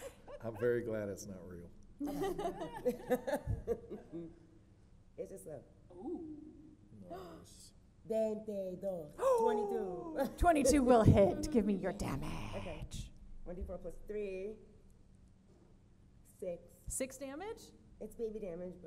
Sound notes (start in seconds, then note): 8.0 foreign language